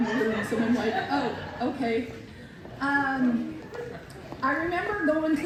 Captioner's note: laughter